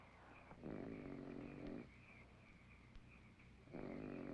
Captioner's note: snoring